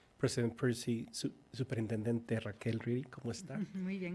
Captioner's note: speaking in foreign language